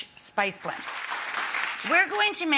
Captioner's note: audience applauding